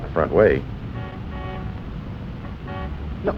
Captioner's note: car horn